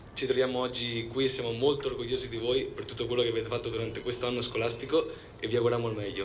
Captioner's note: in Italian